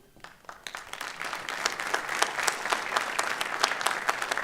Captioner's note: applause